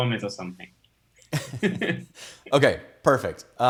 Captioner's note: both laughing